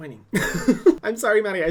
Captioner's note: laughs